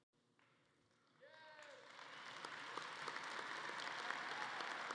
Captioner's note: audience clapping